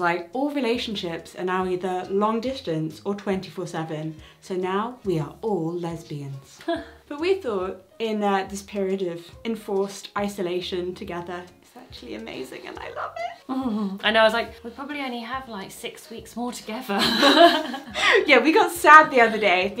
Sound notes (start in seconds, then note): 17.0 laughs